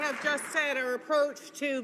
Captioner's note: some Applause